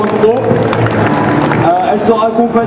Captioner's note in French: applaudissments